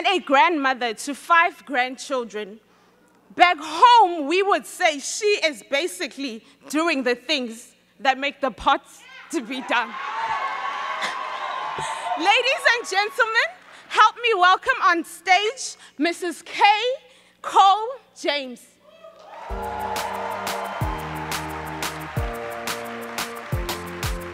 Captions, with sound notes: and a grandmother to five grandchildren. Back home we would say she is basically doing the things that make the parts to be done. (audience cheering) Ladies gentlemen, help me welcome on stage Mrs. Kay Coles James. (audience cheering) (upbeat instrumental music)